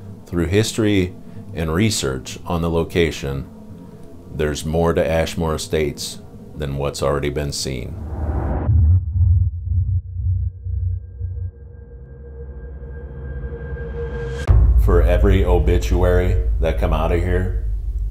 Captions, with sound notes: Through history and research on the location, there's more to Ashmore Estates than what's already been seen. (eerie pulsing) (eerie music) For every obituary that come out of here.